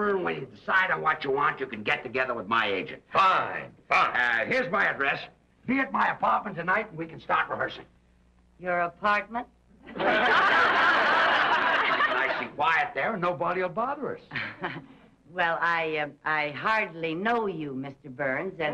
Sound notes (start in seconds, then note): 9.8 audience laughs